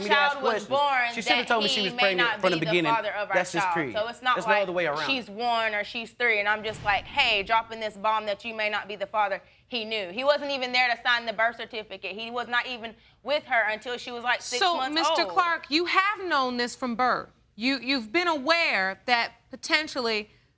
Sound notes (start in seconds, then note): none